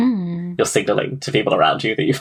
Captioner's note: laughing